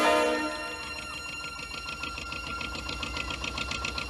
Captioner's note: engine chugging